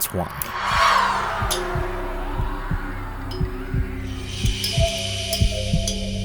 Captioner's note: eerie pensive music; heartbeat pulsing